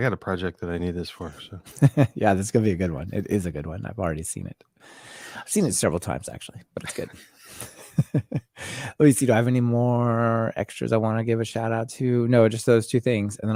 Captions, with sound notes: I got a project that I need this for. - Yeah, this is gonna be a good one. It is a good one, I've already seen it. I've seen it several times actually, but it's good. (laughing) Let me see, do I have any more extras I wanna give a shout out to? No, just those two things.